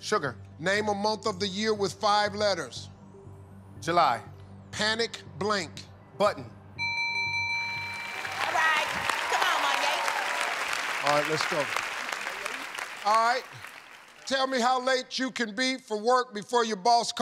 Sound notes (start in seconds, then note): 6.8 bell rings; 7.8 applause